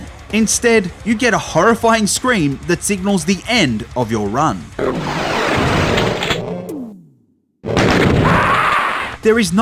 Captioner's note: insert scream